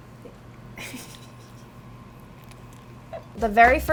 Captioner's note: laughing